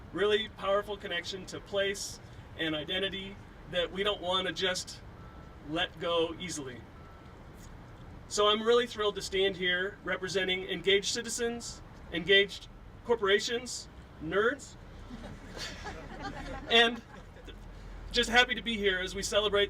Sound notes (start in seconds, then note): 15.0 laughing